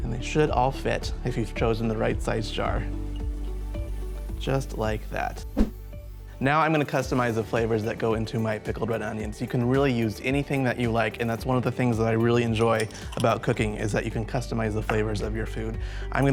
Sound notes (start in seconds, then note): 5.4 air whooshes